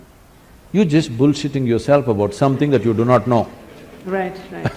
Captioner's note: laughter